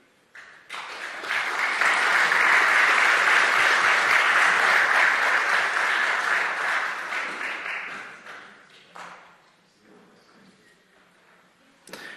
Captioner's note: clap